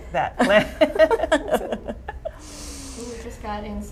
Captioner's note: laughter